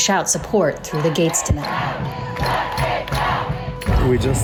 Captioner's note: chanting